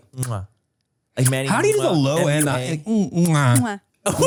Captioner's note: Manny smooches; all smooch